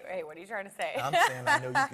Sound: laughs

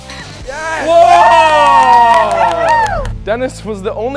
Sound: cheering and applause

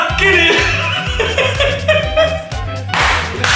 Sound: hysteric laughing

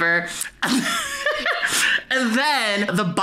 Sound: chuckles

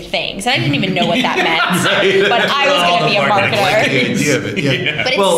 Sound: laughter

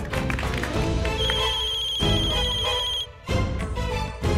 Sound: phone ringing

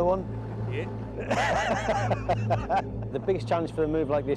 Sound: all laugh

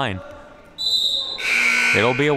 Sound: siren buzzing

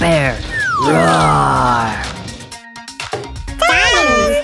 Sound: Dr. McTinker roars

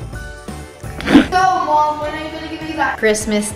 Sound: air whooshing

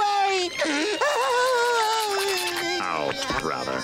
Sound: crying

